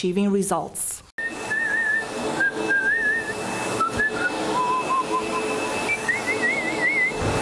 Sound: whistling

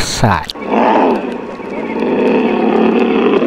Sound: the tiger sounds

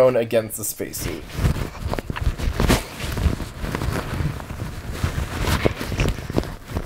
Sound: microphone rustling against spacesuit

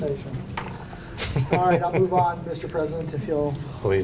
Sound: laughter

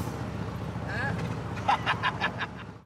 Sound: laughing

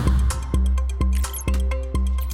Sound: beeping

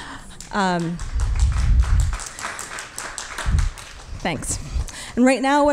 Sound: audience clapping

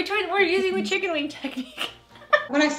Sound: laughing

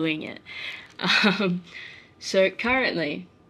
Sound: chuckles

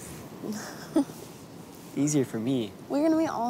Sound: laughing

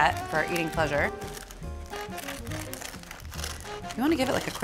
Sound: crackling

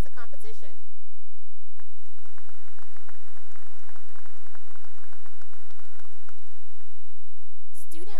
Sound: applause

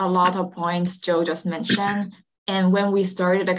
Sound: clears throat

